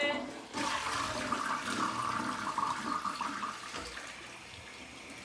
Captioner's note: water gurgling